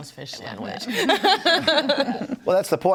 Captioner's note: panelists laughing